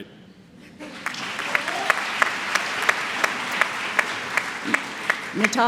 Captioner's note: applause